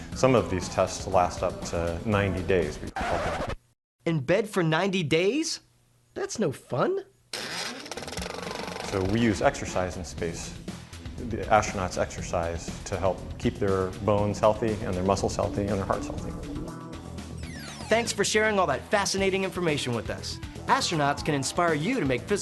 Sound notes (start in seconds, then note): 2.9 record scratching